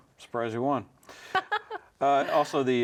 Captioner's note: laughing